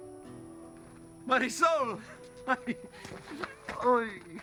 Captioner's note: laughs